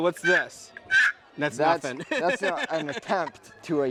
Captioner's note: laughing